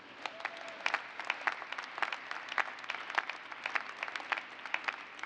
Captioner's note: cheers and applause